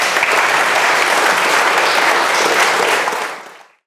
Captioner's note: audience applauds